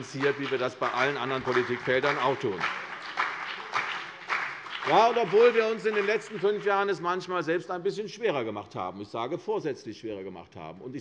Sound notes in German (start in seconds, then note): 2.7 Beifall CDU und BÜNDNIS 90/DIE GRÜNEN